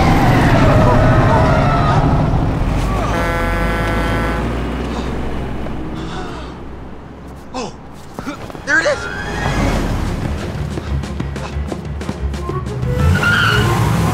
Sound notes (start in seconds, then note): 0.2 whimsical music; 2.6 bus horn honking; 5.9 breathing sigh of relief; 10.4 upbeat chase music